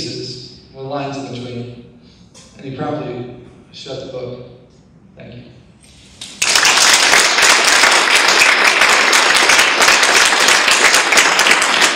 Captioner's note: audience claps